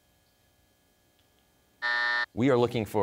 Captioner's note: buzzer sounds